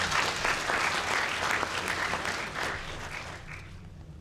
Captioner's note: applause